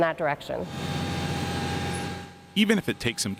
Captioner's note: machinery whirring